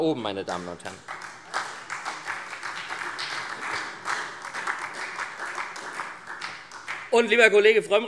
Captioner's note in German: Beifall SPD